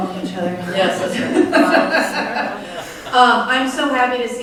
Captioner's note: all laugh